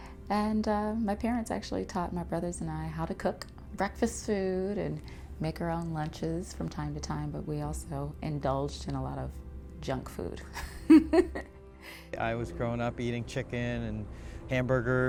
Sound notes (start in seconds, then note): 10.6 laughing